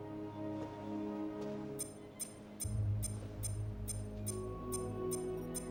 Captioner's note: machine beeps